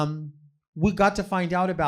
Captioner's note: none